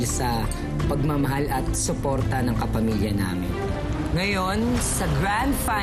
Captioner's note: none